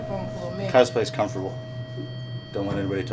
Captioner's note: electronic tone sounds